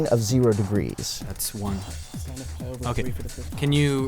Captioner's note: whispering